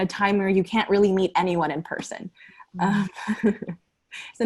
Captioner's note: laughter